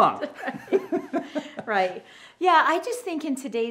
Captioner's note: both laugh